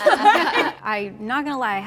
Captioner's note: laughing